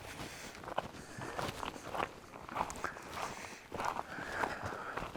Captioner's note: tapping of footsteps